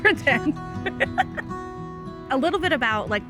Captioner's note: laughs